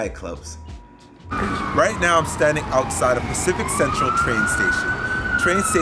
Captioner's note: 🚨Ambulance siren🚨